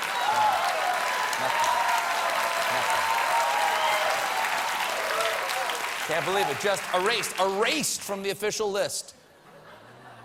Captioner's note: cheers and applause